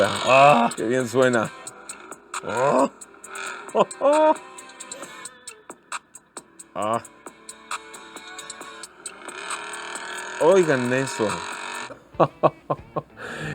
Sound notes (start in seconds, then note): 0.0 laughter; 1.8 engine roaring; 1.8 pleasure noises; 12.1 laughter